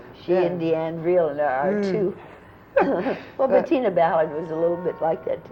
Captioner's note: laughter